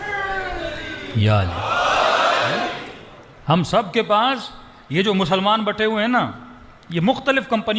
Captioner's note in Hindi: चीखने की आवाज़